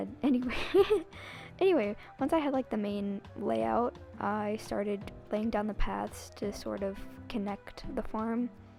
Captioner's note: laughing